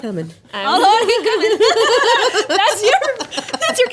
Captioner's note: laughing